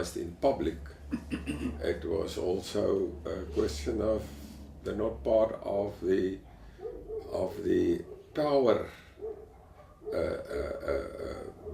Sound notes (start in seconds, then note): 1.3 cough